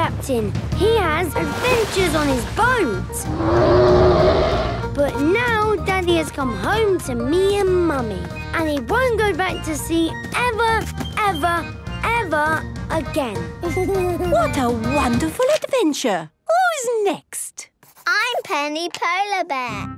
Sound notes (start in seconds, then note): 3.2 loud roar; 13.2 Danny giggles